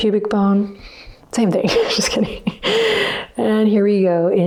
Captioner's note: laughs